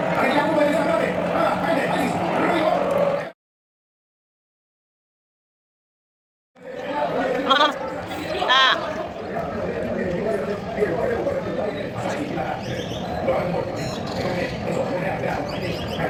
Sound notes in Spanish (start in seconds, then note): 4.0 ovación